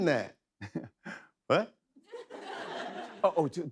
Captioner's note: chuckles